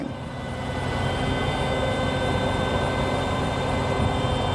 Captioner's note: machinery whirring